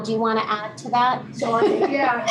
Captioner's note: laughter